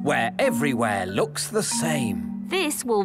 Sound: none

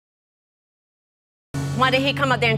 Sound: audience exclaiming

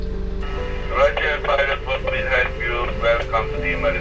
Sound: radio chatters

